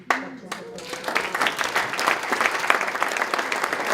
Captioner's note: applause